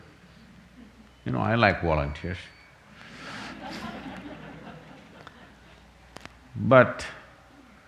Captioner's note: laughter